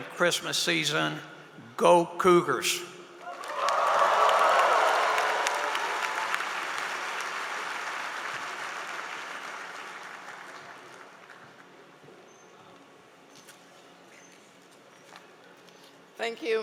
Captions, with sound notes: HAVE A GREAT HOLIDAY AND CHRISTMAS SEASON. GO COUGARS! (APPLAUSE).